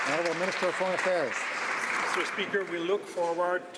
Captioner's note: some Applause